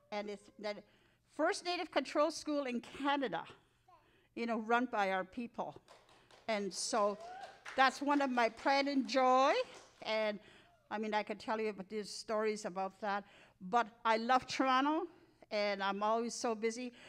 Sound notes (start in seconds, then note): 7.0 audience claps